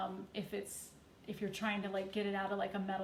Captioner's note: none